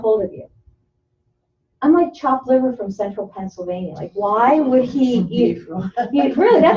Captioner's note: laughter